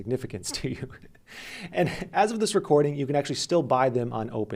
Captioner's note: laughs